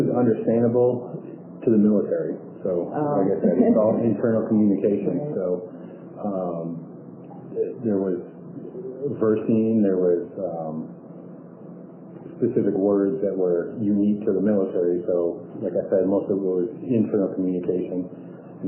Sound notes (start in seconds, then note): 3.4 laughter